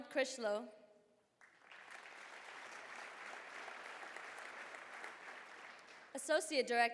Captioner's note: applause